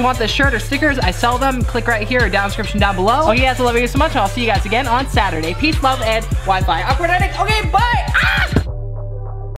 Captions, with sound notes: If you guys want this shirt or stickers, I sell them. Click right here or down in the description down below. Oh, yeah, I love you guys so much and I'll see you guys again on Saturday. Peace, love, and wifi. Awkward ending, okay bye, (screams).